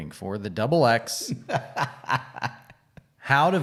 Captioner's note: laughs loudly